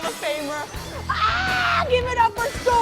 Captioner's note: yells